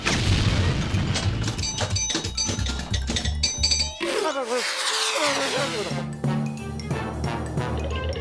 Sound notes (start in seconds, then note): 2.7 pinball clanking; 6.3 whooshing